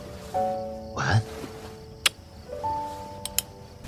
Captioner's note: smooch